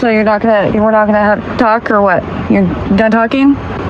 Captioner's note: none